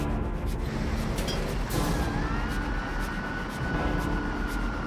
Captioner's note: rocket engine roaring